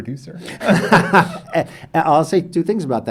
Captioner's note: both laugh